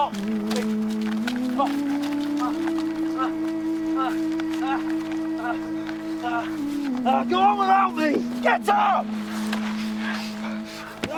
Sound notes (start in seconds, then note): 4.5 Percival groans